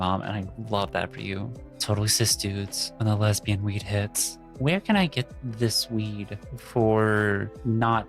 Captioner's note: none